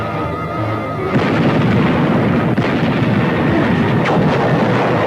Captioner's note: suspenseful music; weapons firing; explosion booming